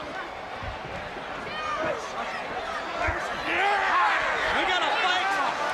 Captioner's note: crowd chatter